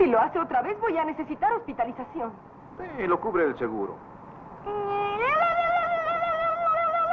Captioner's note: Ruthie Screaming